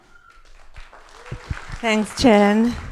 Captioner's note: crowd applauding